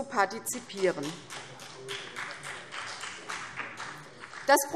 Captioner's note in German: Beifall CDU und BÜNDNIS 90/DIE GRÜNEN